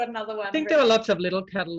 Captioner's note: mumbles